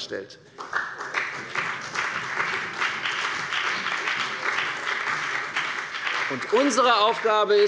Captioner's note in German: Beifall bei dem BÜNDNIS 90/DIE GRÜNEN und der CDU